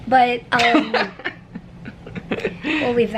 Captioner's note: chuckling